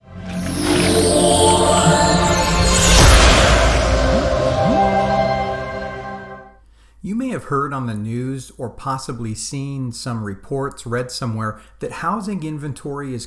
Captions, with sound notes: (air whooshing) - You may have heard on the news or possibly seen some reports, read somewhere that housing inventory